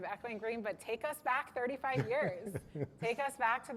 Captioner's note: laughter